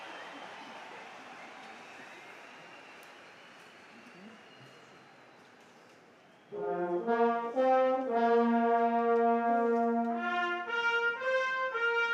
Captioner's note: cheers and applause